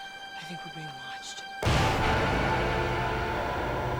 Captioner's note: computerized humming